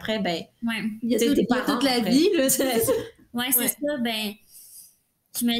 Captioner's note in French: rires